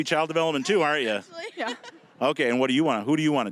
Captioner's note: laughing